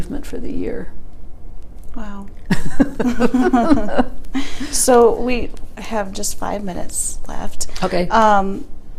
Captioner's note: laughter